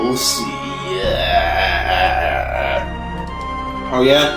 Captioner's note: yet another laugh